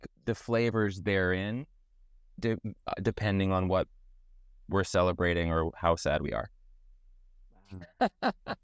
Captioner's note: laugh